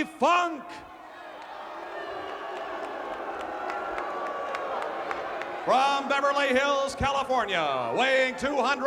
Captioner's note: applause